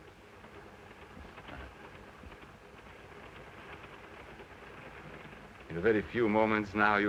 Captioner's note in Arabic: صوت خشخشة القطار